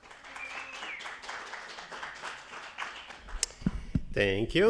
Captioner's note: attendees applauding